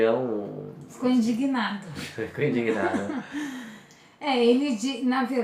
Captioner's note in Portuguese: risos